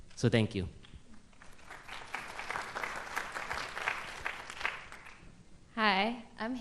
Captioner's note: applause